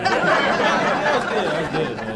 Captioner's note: laughing